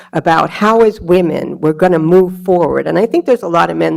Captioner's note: none